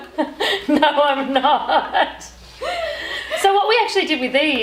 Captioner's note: laughing